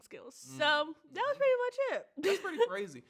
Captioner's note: chuckles